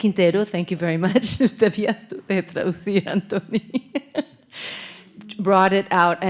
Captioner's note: speaking in Spanish